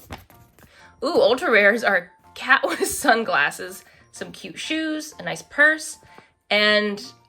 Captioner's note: laughs